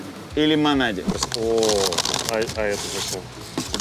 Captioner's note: paper rustling